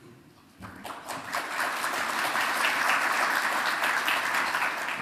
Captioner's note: audience applauding